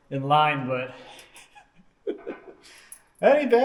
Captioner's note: laughs